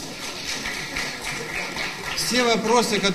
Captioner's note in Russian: аплодисменты